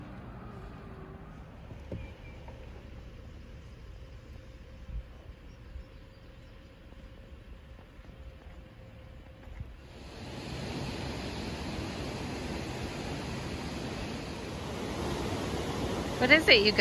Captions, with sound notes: *birds chirping* *waterfall* what is it, you guys?